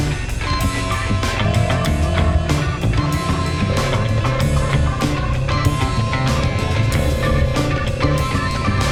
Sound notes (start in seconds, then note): 0.1 upbeat music; 2.3 ATV engine noise